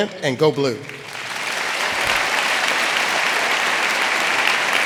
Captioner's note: audience applauding